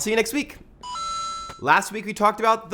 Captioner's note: arcade sound